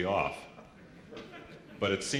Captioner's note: laughter